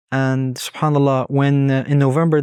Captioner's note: speaking Arabic